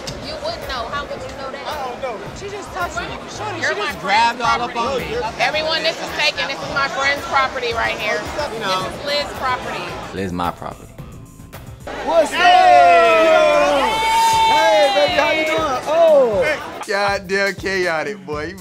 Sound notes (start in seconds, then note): 11.9 overlapping greetings